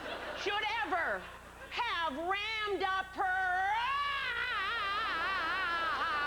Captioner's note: sustained scream